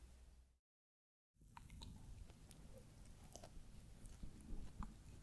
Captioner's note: eating sound